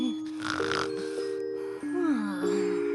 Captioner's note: snoring